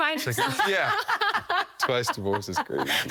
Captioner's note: laughter